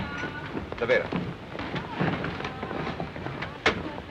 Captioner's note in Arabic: هارتز يتحدث لغة أجنبية